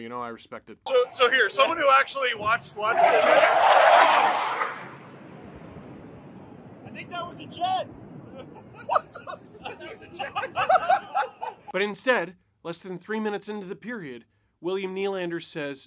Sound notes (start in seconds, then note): 5.6 fighter jet noise; 11.4 laughter